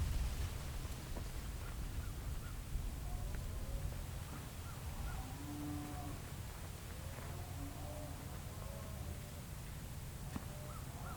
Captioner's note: natural noises